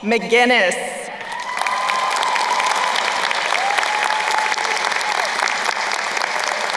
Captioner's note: crowd cheering and applauding